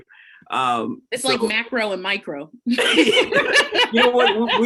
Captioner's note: all laughs